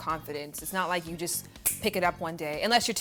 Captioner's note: snaps